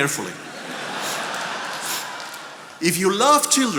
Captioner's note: attendees laughing